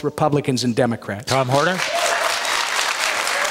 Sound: applause, cheers

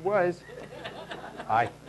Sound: laughing

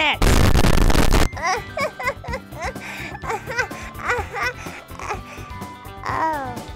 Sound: chuckles nervously

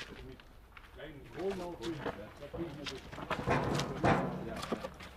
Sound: conversations in the background, rumbling

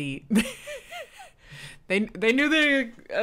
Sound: laughs

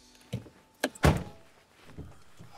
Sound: car door closes; car door opens

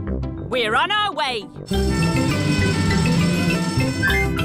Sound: siren wailing

